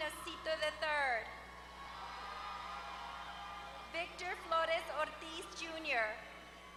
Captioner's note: applause; applause